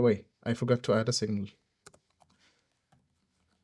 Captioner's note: click